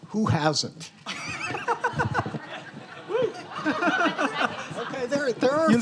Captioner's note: students laughing